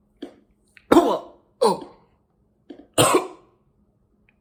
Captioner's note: Chuck coughing